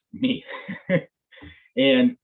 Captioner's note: chuckles